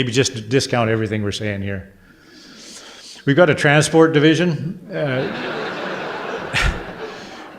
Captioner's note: audience laughter